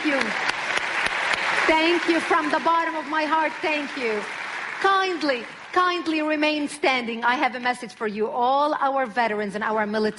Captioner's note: கைத்தட்டல்